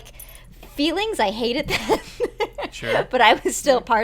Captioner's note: laughter